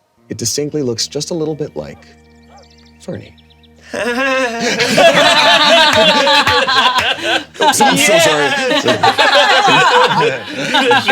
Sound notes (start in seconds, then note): 3.8 all laughing; 4.1 chuckles coyly